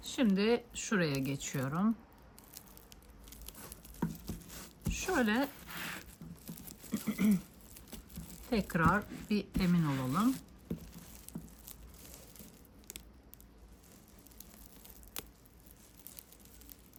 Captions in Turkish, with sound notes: Şimdi şuraya geçiyorum. Şöyle [boğazını temizler] tekrar bir emin olalım.